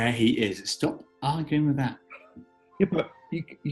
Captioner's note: sniggering